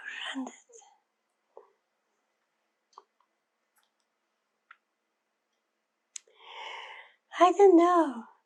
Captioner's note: pauses 6 seconds